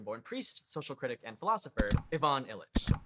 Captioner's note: click